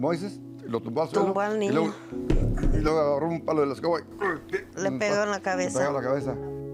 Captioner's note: both speaking in Spanish